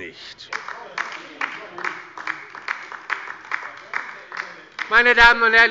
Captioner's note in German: Beifall bei der LINKEN